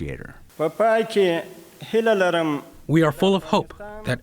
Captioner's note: through translator